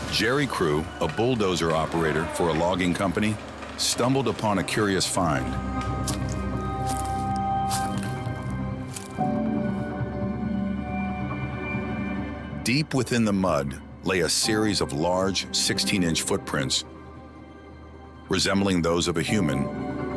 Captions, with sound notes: Jerry Crew, a bulldozer operator for a logging company stumbled upon a curious find. (feet stomping) (ominous music) Deep within the mud lay a series of large 16-inch footprints resembling those of a human.